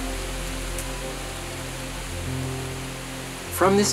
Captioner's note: aspens quaking